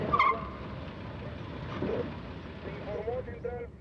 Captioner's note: police radio chatter